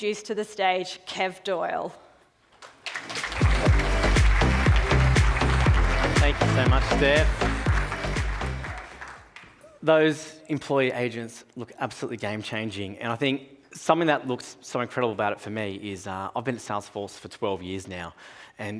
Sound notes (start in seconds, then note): 2.6 audience applauding; 3.0 upbeat music